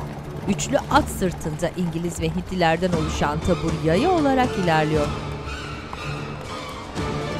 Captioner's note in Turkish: Müzik - Gerilim; At nalı sesleri